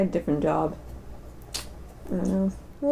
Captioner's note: tsk